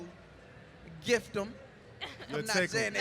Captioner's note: laughter